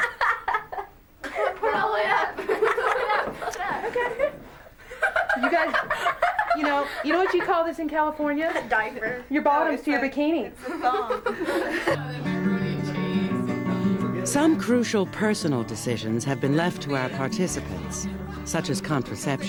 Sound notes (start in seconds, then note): 1.2 laughing; 4.6 girls laughing